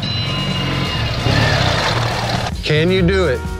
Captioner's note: engine roaring; bell ringing; energetic music